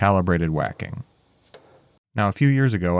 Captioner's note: hammer thuds